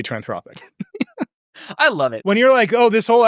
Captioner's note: chuckling